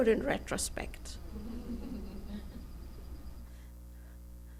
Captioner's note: laughter